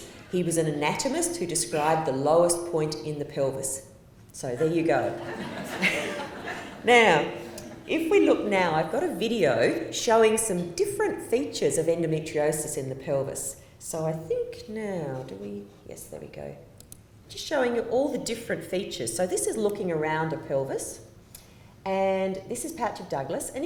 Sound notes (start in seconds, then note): 5.1 laughter